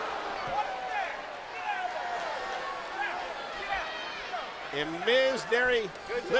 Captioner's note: crowd chatter